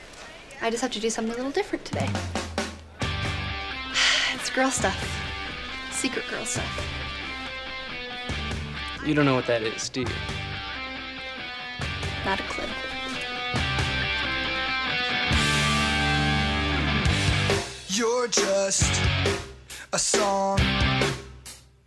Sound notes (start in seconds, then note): 2.6 sighs; 13.1 upbeat rock music